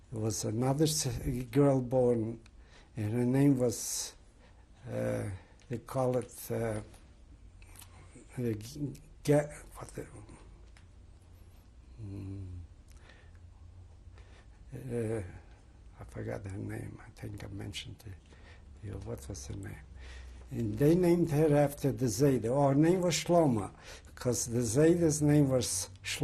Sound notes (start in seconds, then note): 10.2 pauses for 6 seconds